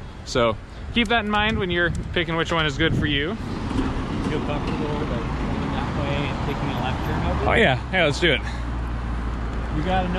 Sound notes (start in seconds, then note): 4.3 traffic drowns out